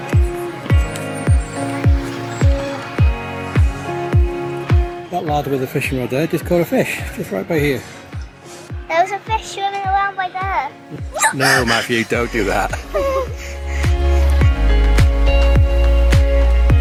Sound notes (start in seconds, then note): 1.1 upbeat music; 11.1 shrieking; 13.4 upbeat music